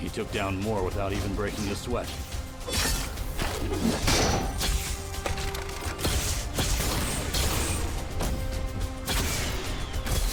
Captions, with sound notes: He took down more without even breaking a sweat. (loud clattering) (gun blasting)